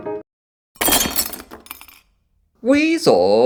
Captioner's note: crash